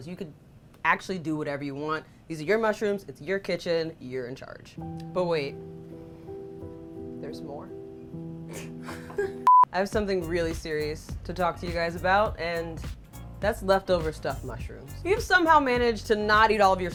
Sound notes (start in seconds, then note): 4.8 soft piano; 8.4 laughs